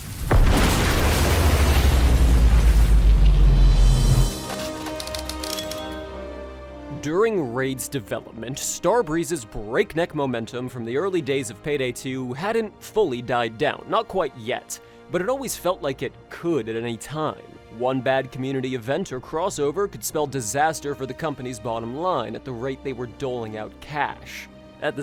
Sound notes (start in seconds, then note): 0.0 rainfall; 0.0 slow-motion explosion; 4.8 typewriter chimes